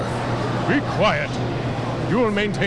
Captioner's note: crowd gasping